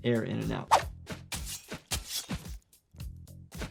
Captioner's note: knife slashes